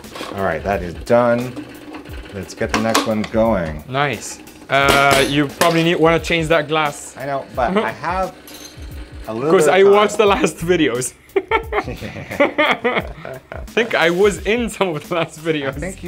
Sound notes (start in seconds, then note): 11.2 laughing